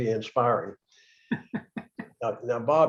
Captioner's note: laughter